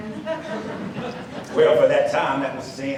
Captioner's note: audience laughs